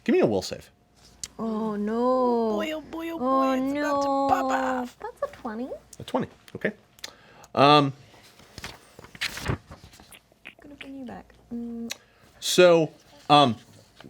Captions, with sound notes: Give me a will save. - Oh no, oh no. - Oh boy, oh boy, oh boy. - That's a 20. - A 20, okay. (pages flipping)